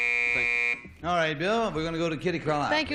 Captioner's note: buzzer